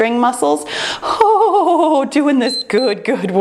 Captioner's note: timer beeps